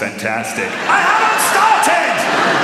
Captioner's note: laughter